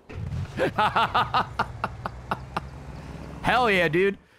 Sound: laughs

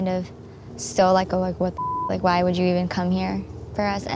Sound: beep

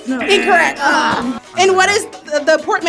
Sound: wrong buzzer rings

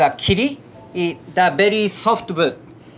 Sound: text chiming

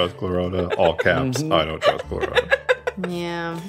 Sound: laughing

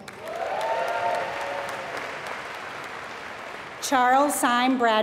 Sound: applause

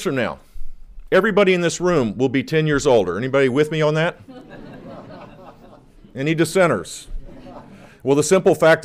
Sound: laughter

